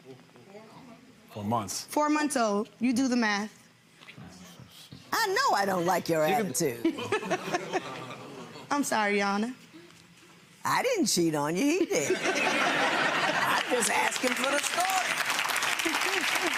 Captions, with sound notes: - Four months. - Four months old, you do the math. - I know I don't like your attitude. (laughing) - I'm sorry, your Honor. - I didn't cheat on you, he did. (laughing) (spectators clapping) I just asking for the story.